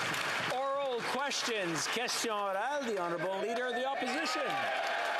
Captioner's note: applause